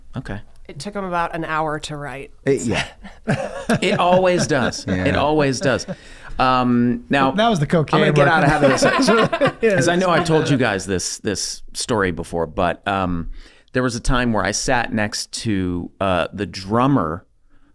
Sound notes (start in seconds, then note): 2.6 all laughing